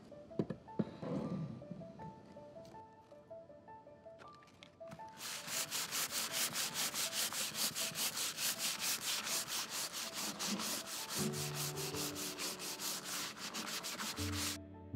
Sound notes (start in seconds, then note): 1.8 calming music; 4.9 sandpaper scraping; 9.6 calming music